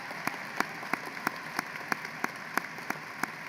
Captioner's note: applause